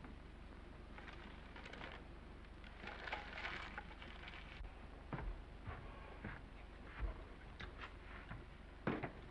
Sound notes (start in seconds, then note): 2.5 paper crinkling; 5.6 footsteps approaching